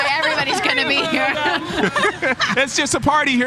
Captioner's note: laughing